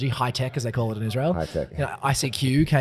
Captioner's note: laughs